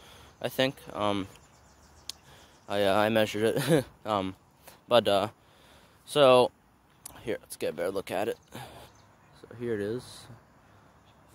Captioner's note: laugh